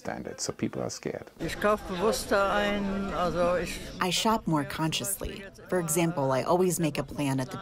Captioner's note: through translator